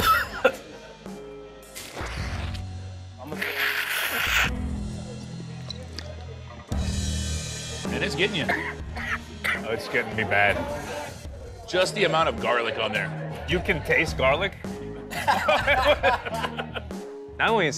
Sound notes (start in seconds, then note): 0.0 coughs; 3.3 blows nose; 15.0 laughter